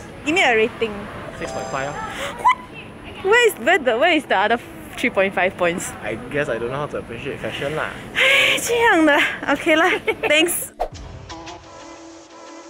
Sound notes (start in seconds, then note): 8.1 sighs